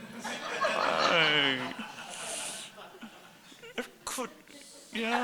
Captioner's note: audience laughing